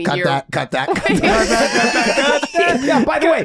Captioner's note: group laughing